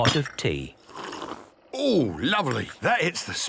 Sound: sipping

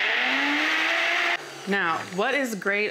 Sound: blender whirring

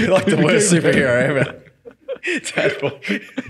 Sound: laughing

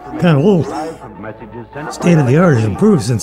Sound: laughs

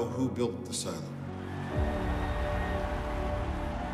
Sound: cheering

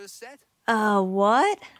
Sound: Vesper speaks in Emryn

